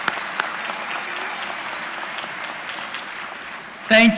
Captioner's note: applause